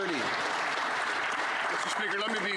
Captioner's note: some Applause